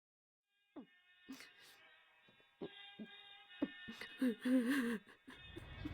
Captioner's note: crying